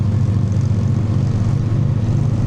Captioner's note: none